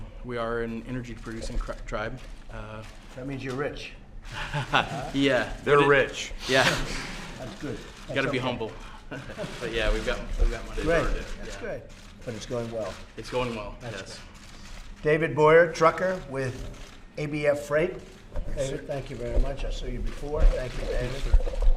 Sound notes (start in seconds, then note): 4.2 laughs; 9.1 laughter